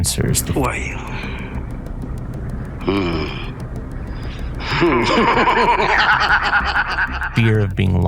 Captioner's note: evil laughing